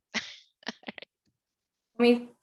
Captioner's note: chuckles